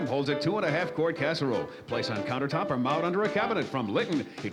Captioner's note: none